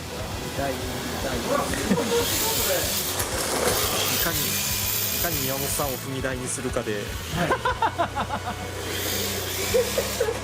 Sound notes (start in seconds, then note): 9.6 laughs